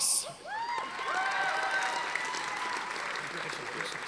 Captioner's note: audience applauding